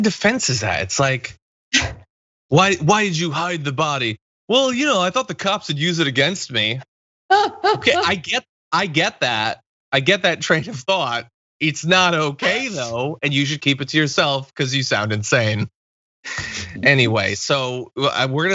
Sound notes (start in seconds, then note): 7.3 laugh